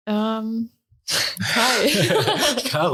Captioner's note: laughter